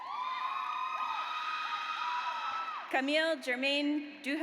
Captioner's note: audience cheers